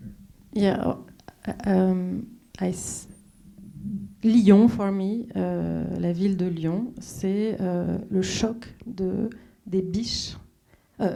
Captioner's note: speaking French